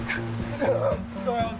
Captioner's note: grunts